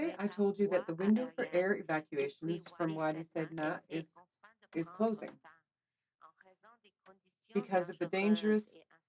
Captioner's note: speaking French